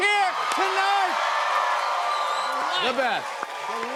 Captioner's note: cheers and applause